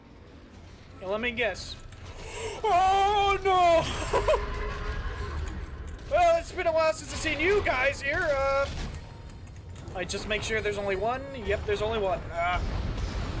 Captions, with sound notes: Let me guess. (Gasp) OOOOOHHHHH NOOOOOOOHOHO!!! Well it's been a while since I seen you guys here! Uuuhhh. I just make sure there's only one yep there's only one. Agh.